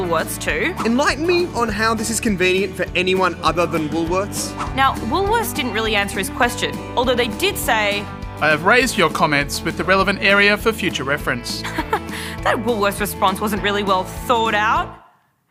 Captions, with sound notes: Now, Woolworths didn't really answer his question, although, they did say - (Chuckles) That Woolworths response wasn't really well thawed-out.